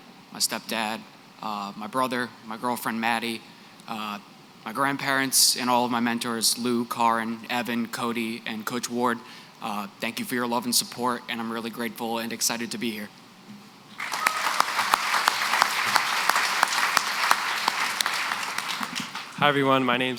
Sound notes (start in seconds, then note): 14.0 applause